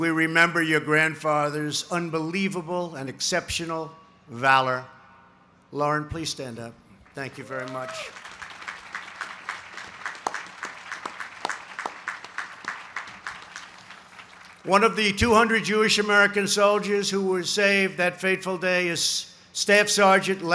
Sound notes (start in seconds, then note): 7.0 applause